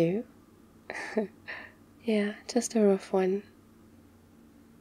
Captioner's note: laughs